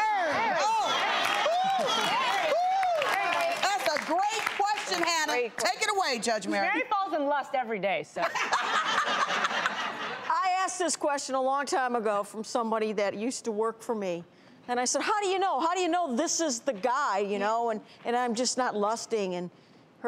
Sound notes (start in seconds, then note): 0.8 audience claps; 8.3 panel laughs